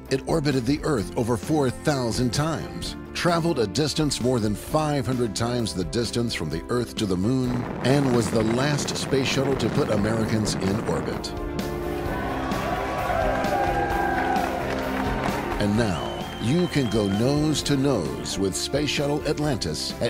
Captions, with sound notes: It orbited the earth over 4,000 times, traveled a distance more than 500 times the distance from the earth to the moon, (exhaust blowing) and was the last space shuttle to put Americans in orbit. (people cheering) And now, you can go nose-to-nose with Space Shuttle Atlantis